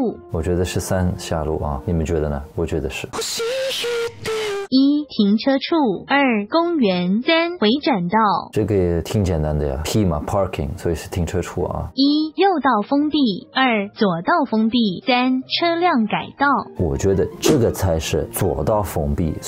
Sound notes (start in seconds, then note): 14.9 speaking Taiwan dialect